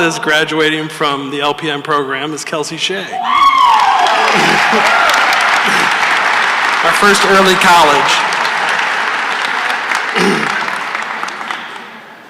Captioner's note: cheers and applause; applause